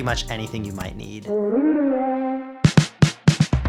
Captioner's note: distant voice; drum fill